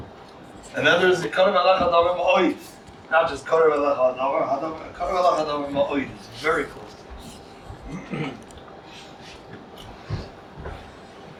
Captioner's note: Hebrew